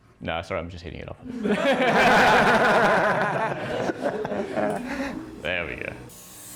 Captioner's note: laughing